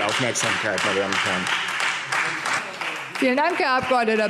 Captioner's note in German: Beifall Freie Demokraten